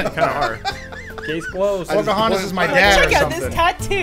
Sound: wheezing

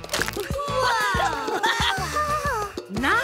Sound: laughing

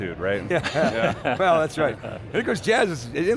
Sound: multiple laughs

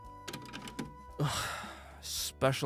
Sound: sigh

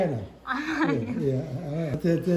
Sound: laughing

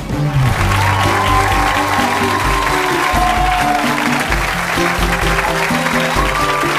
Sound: bright music; audience clapping

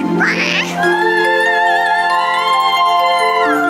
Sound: vocalizes

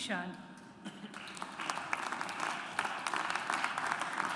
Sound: audience applauds

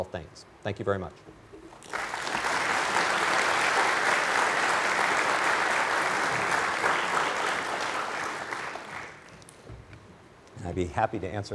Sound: applause

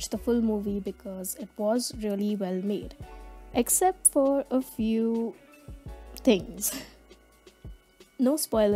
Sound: giggles

